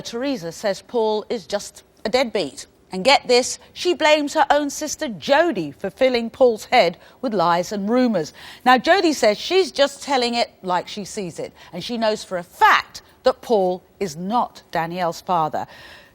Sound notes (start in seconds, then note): none